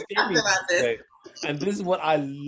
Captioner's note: overlapping chatter